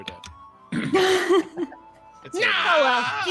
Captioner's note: clears throat; laughs